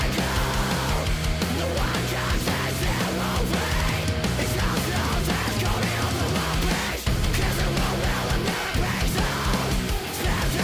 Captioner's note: fast chug